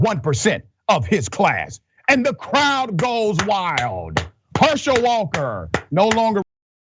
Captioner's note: applause